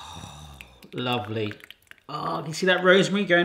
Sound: gravy dripping

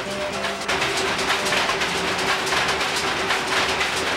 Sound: textile machines rattling

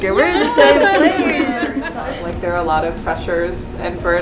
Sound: laugh

